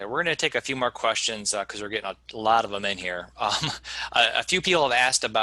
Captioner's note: laughing